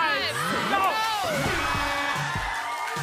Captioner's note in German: Jubel, Applaus